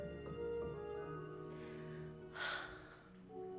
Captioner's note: sighs heavily